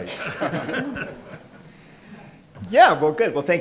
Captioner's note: laughing